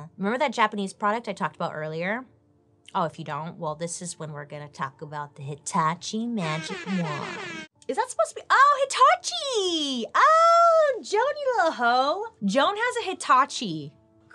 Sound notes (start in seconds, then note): 6.4 air horns blasting